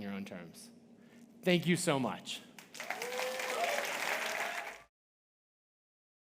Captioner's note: audience applauding